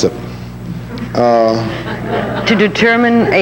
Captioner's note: audience laughing